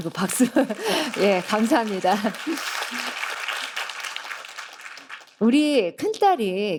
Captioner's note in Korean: 박수